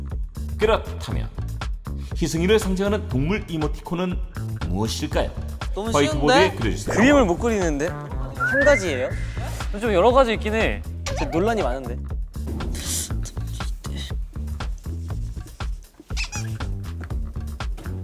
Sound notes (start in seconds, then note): 11.1 haha